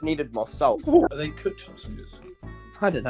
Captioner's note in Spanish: Sonidos de británico